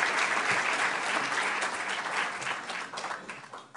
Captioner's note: applause